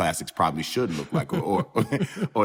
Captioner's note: laughter